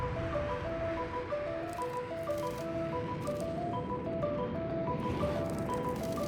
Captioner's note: none